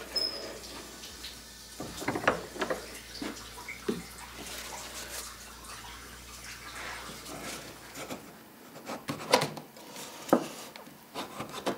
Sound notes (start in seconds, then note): 1.7 background rippling